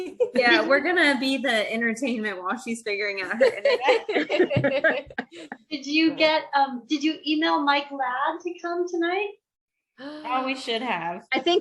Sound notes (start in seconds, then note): 3.4 laughter